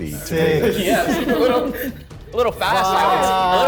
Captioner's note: laughs